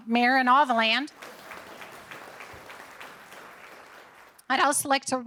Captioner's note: audience applauding